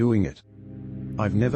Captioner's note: electrical noise